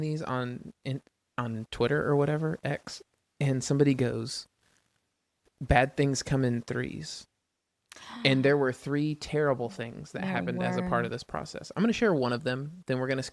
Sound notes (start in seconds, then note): 7.9 sighs